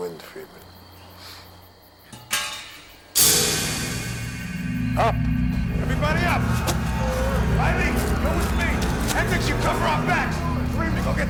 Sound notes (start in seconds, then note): 2.1 clattering; 3.4 tense music